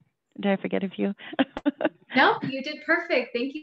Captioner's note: laughs